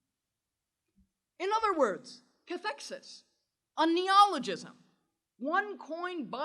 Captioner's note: german